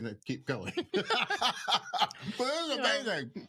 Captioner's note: laughs